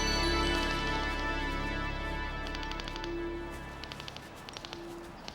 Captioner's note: detectors clicking